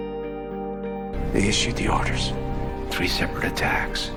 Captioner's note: voiceover